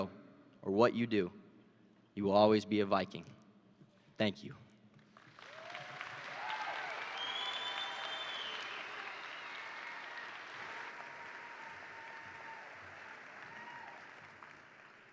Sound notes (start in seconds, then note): 5.0 attendees applaud; 5.2 attendees cheer